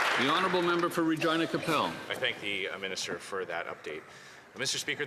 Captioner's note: applause